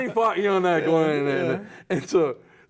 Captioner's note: laughing